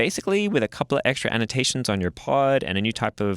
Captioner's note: none